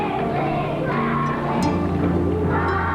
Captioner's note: chatter